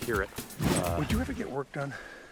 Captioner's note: air whooshes